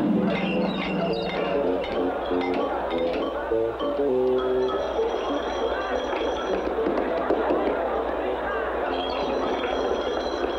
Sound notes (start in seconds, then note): 5.4 crowd noises